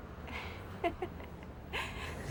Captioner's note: jane chuckling